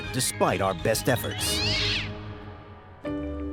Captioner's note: cat shrieks